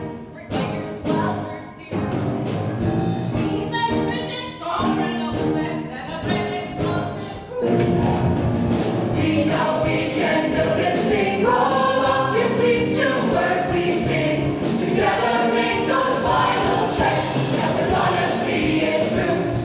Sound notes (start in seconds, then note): 7.9 faint explosion